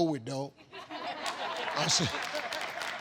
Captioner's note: audience laughs